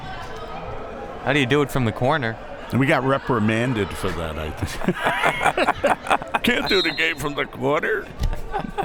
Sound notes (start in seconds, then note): 4.6 both laughs; 8.3 both laughs